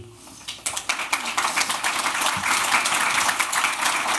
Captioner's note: applause